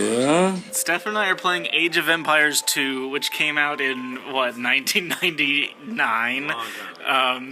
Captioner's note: scoffs